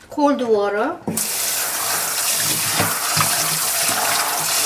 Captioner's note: water pouring